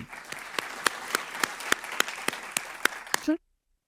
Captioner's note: audience applauding